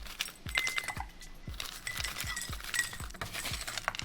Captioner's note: ice clinking